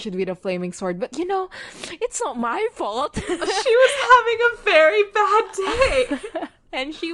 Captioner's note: laughs